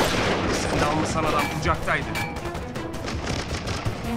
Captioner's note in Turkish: Silah sesleri